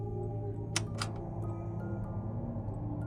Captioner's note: soft melodious music; tense music continues; button clicks; soft melodious music; tense ominous music